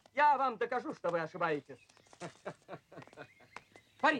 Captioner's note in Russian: майор смеется